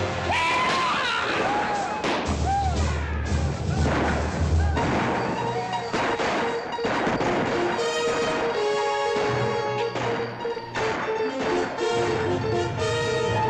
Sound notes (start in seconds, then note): 0.0 commotion & gunshots; 0.0 dramatic music; 1.6 commotion & gunshots; 1.6 dramatic music